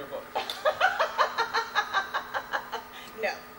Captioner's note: Beatrice laughs